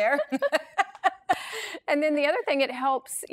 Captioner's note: laughs